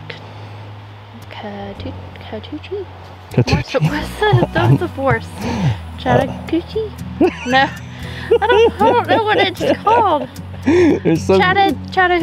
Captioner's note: laughs